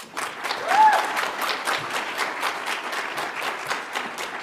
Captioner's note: audience applauds